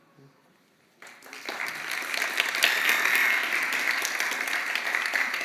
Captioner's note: applause